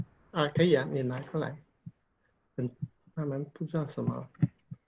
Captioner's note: speaking in foreign language